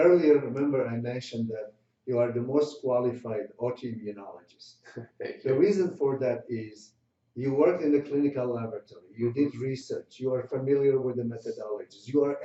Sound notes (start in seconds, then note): 4.8 chuckles